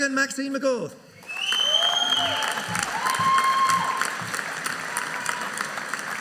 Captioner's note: audience cheering